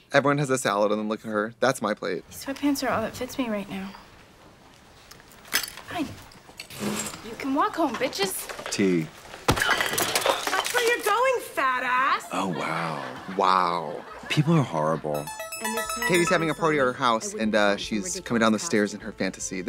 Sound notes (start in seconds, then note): 9.5 tray rattles; 15.1 upbeat music